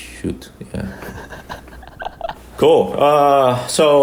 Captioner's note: laughs